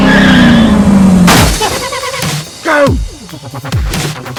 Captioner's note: engine roaring; car crashing